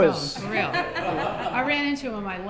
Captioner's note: laughter